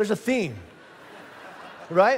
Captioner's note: congregation laughing